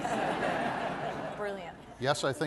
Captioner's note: laughter